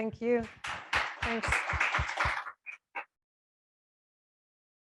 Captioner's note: audience applause